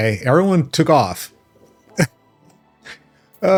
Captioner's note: chuckles